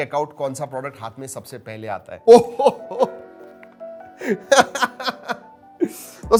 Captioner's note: laughs